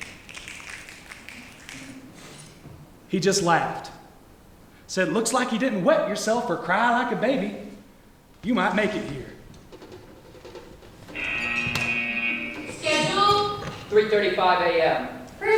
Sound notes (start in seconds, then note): 0.0 snapping; 11.1 buzzer